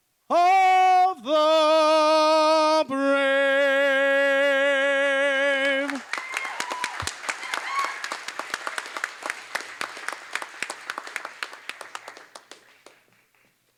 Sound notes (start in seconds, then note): 5.6 applause